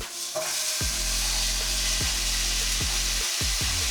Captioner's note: meat sizzling